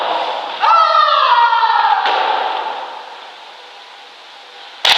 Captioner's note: Shouting as Stepsister